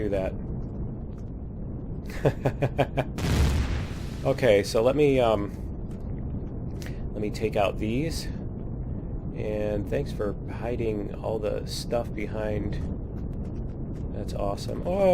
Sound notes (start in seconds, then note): 1.3 laughs; 3.0 explosion